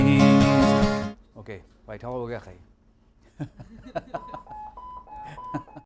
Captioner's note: laughter